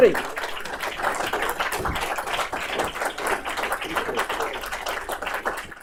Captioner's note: applause